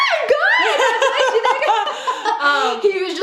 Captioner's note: laughing